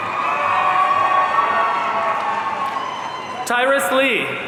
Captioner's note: audience cheering